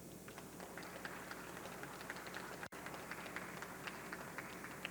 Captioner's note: audience clapping